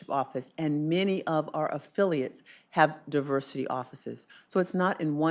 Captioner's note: none